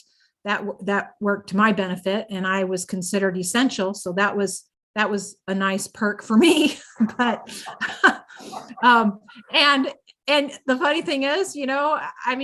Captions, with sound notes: That worked to my benefit, and I was considered essential. So that was a nice perk for me. (laughs) But, and the funny thing is, you know, I mean,